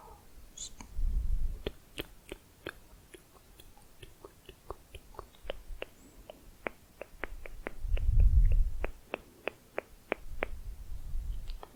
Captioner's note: rounded tongue clicking